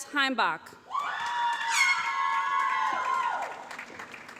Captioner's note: applause